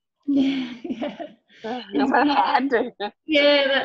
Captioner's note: laughing